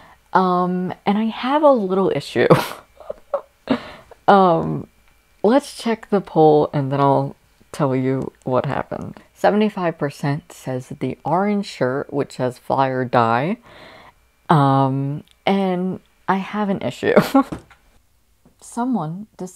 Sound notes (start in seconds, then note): 2.9 laughing